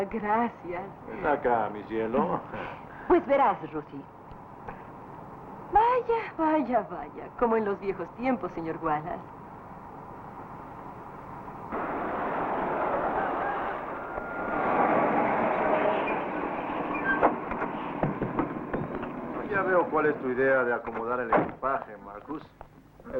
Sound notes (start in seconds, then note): 2.4 sighs; 11.7 rooster Crowing